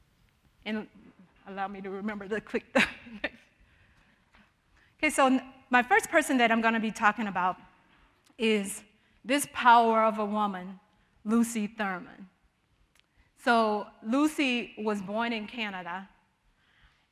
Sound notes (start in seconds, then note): 3.2 chuckling